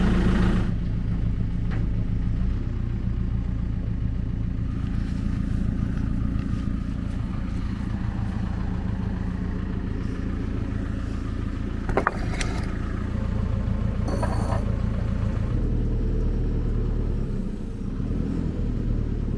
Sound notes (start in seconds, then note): 11.8 blocks scraping together; 15.8 engine running calmly